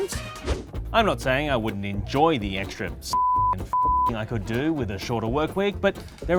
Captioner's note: beep